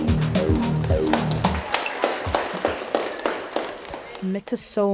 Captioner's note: group applauding